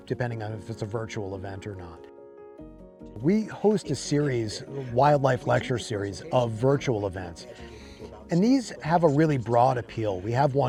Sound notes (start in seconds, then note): none